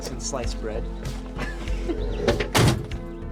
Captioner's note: Sawyer laughs; soft synth music